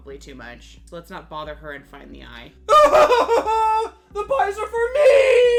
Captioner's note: frenetically screams